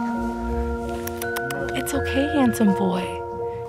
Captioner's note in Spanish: Clics de lengua